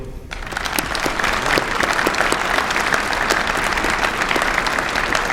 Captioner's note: applause